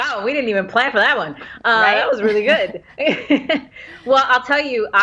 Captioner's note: laughs